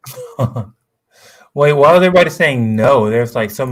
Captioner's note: laughs